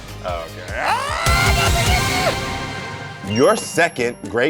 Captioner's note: laughing